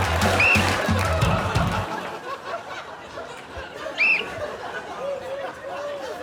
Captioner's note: blows whistle; whistle blows; whistle blows